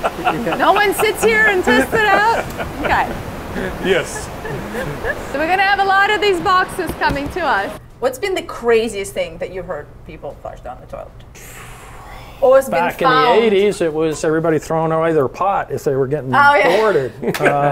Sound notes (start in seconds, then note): 0.0 laughing; 11.3 exhaling; 16.8 all laughing